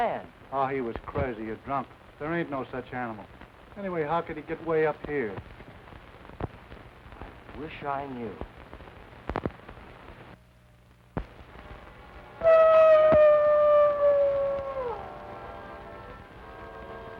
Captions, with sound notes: - Oh, he was crazy or drunk. There ain't no such animal. Anyway, how could he get way up here? I wish I knew. (wolf howling in distance) (dramatic music)